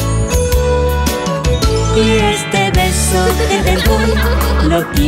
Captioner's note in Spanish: Risas